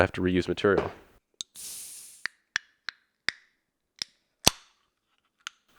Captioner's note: 7-Up sounds